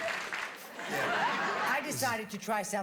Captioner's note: laughter